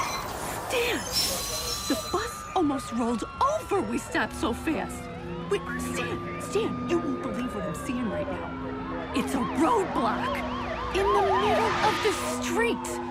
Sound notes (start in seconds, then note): 3.9 sirens wailing, radio chatter